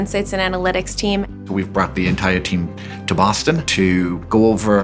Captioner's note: male Voice